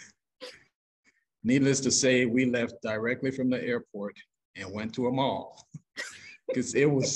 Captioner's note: laughs